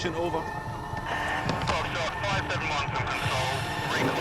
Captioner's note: Control over radio